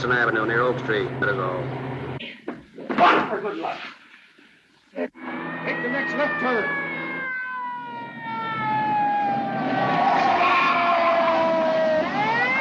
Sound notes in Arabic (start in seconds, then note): 5.1 صوت صفارة الإنذار; 7.7 اصوات صرير الاطارات